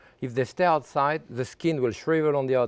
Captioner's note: none